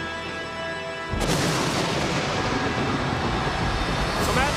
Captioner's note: thunder rumbling